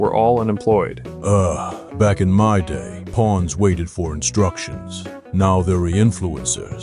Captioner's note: sigh